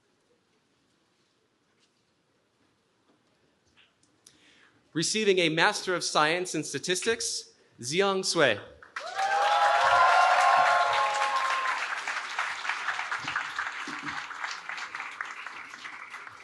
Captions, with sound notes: Receiving a Master of Science in Statistics, Ziyong Cui. [CHEERING]